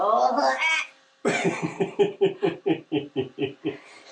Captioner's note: laughing